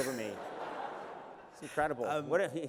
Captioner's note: laughter